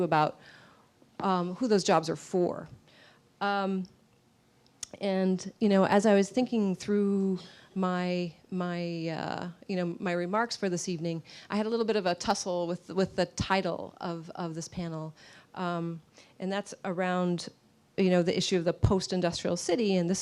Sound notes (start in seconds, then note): none